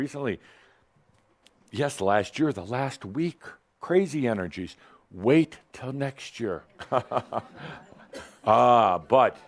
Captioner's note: Adamus chuckles